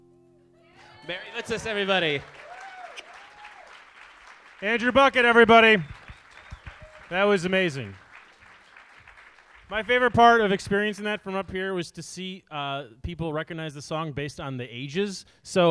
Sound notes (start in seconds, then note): 3.0 audience applauding; 8.1 audience applauding